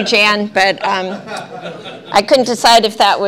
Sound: laughter

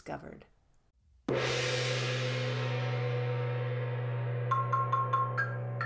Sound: gong sound effect

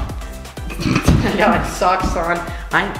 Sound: laughing

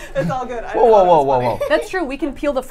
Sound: laughs

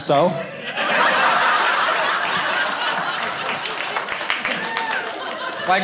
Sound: audience laughing

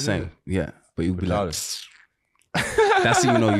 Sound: smacks lips

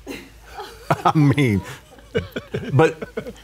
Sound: all laughing

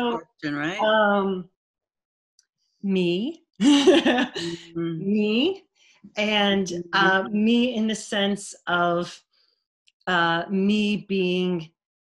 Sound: laughter

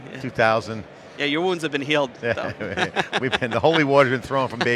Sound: laughs

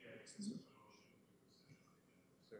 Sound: background chatter

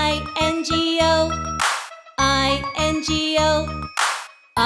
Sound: clap; clap

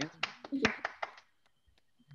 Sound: applause

